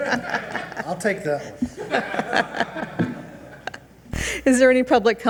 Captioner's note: group laughs